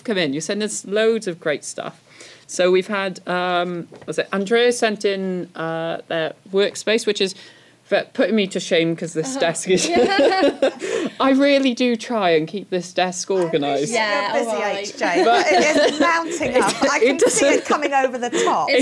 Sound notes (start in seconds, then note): 9.7 laughter